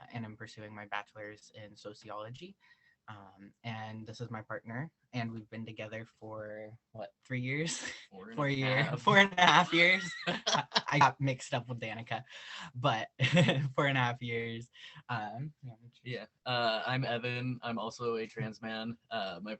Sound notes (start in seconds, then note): 8.7 both laugh